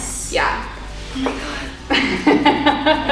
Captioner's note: groans softly; both chuckling